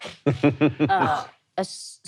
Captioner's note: laughing